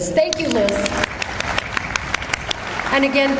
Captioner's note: audience applauds